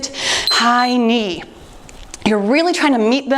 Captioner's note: timer beeps